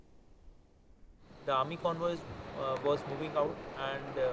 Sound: vehicle approaching

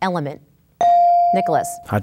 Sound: ding

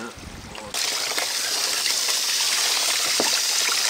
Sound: water running

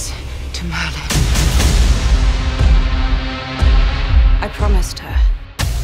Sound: dramatic banging

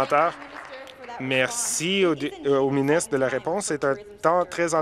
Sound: applause

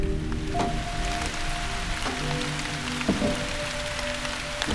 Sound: rain pouring

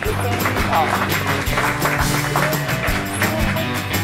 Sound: crowd applauding; upbeat music

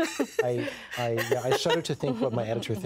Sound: laughing

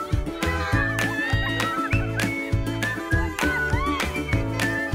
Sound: children cheering

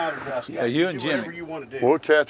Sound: none

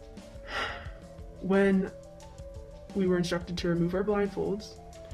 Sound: sigh

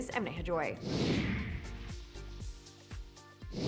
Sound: whooshing

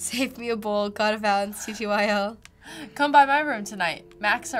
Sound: chuckles

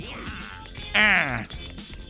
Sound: duck Noise

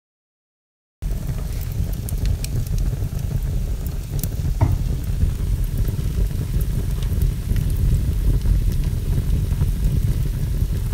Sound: sound of fire

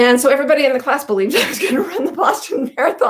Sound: chuckles

